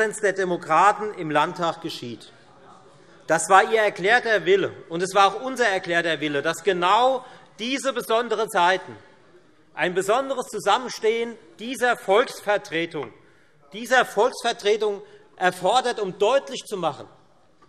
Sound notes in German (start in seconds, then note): none